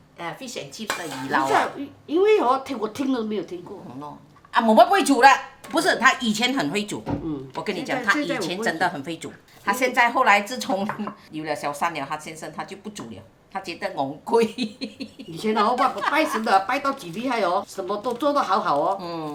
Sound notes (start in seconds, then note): 13.5 Cantonese